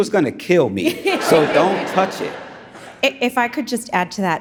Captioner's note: audience laughs